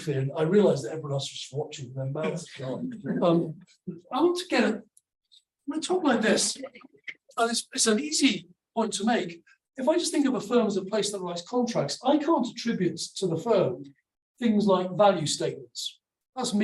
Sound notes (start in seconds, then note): 3.1 audience laughs